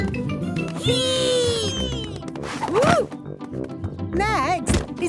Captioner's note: thumps